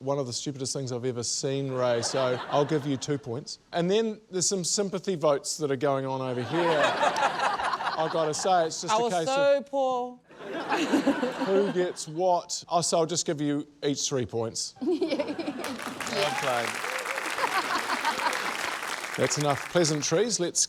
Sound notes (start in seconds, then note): 6.4 laughter; 10.3 laughter; 14.8 giggles; 14.9 laughs